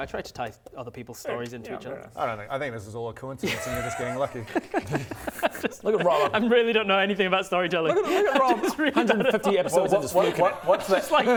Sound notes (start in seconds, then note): 5.0 laughs to hide fear; 10.4 giggles